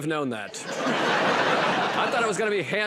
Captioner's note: laughter